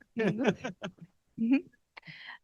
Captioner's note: laughs